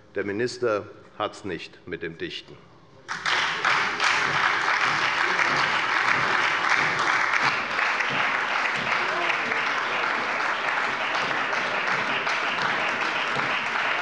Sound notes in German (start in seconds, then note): 3.1 Lebhafter Beifall bei der FDP, der SPD und der LINKEN